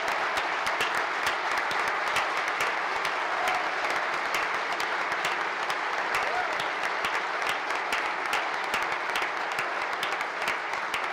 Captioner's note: applause